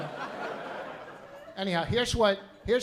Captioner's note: laughter